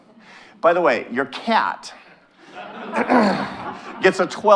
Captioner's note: audience laughing